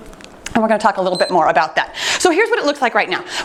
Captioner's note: timer beeps